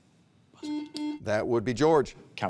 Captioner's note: buzzer beeps